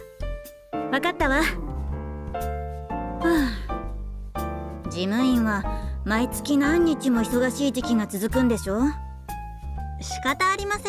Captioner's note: sigh